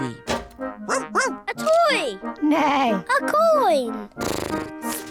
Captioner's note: barks; snorts; neighs